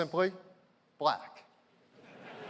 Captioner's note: laughter